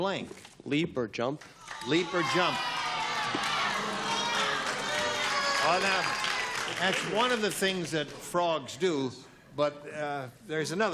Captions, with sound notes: After I ate them, I wanted to blank. - Leap or jump. - Leap or jump. [cheering and booing] - Well, now, that's one of the things that frogs do.